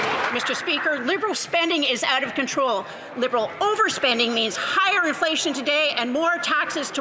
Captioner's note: some Applause